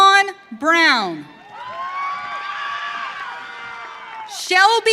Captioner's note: audience cheering